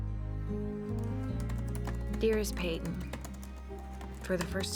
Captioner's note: typing